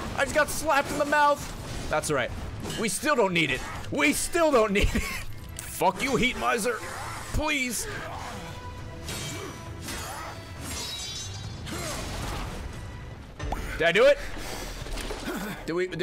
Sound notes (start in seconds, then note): 5.4 laughs